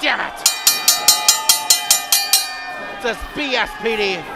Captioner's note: bell rings